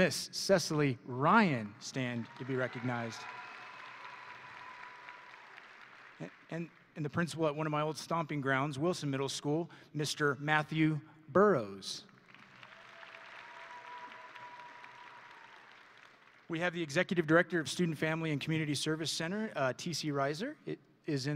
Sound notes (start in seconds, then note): 3.6 audience and graduates cheering; 5.1 audience and graduates applauding; 12.3 audience and graduates cheering; 14.4 audience and graduates applauding